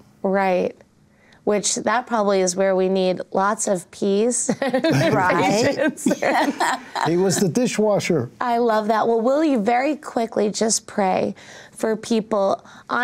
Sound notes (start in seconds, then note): 4.6 laughs